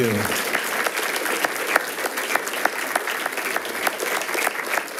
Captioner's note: attendees applauding